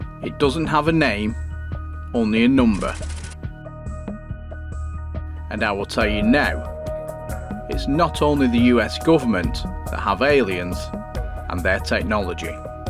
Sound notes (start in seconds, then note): 2.7 typing sound